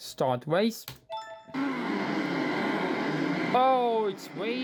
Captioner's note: cars revving